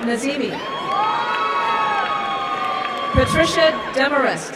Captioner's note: applause and cheering